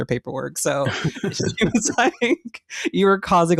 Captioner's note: laughter